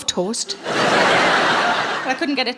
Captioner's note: audience laughing